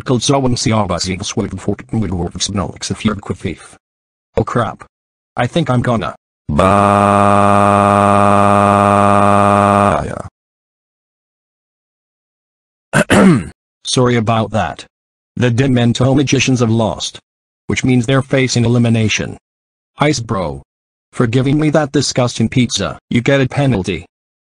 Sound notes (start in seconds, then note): 6.5 throwing up; 12.9 clears Throat